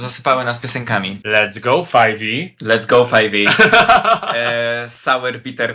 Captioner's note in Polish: śmiech